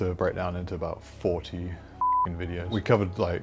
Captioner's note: beep